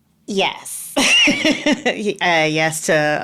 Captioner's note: laughing